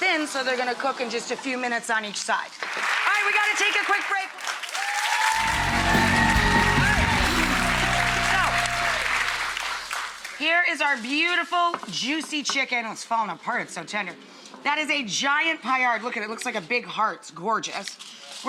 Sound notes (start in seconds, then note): 4.4 audience cheering and clapping